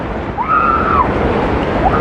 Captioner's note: excititeded scrcreaeam